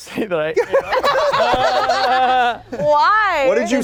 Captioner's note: everyone laughing